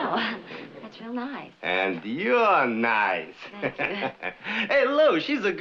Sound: chuckling

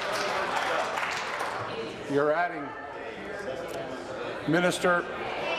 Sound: applause

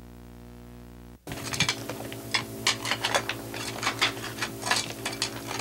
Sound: rocks clattering

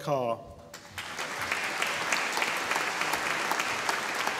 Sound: audience applauding

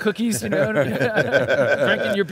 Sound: men laughing

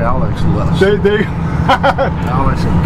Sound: laughs

